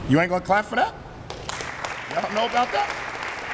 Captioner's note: applause